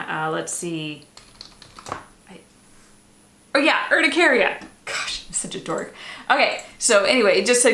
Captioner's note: typing